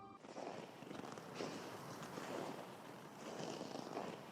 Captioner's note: snow crunching